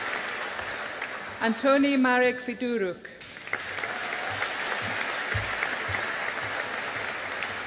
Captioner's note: audience applauding